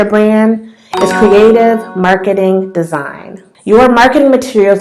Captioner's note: bell sound